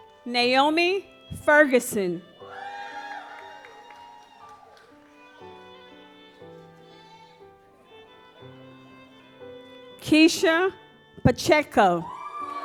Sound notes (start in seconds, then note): 2.4 audience applauds; 6.4 gentle music; 12.0 audience applauds